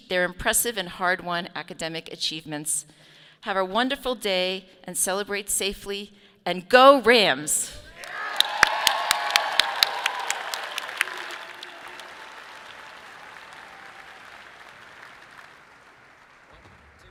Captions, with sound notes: their impressive and hard-won academic achievements. Have a wonderful day and celebrate safely and go Rams. (audience applauding)